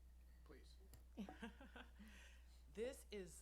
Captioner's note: laughs